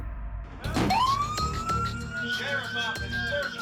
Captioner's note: bang; alarm